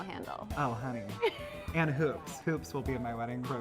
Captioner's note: laughs